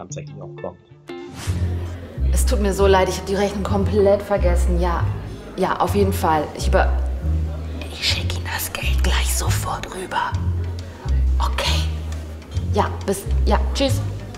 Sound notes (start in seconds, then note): 8.9 Flüstert